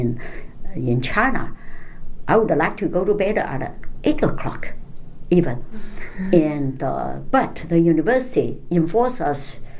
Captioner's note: laughs